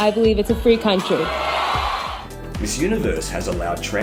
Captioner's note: crowd cheering